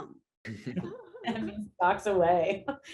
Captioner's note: actors laughing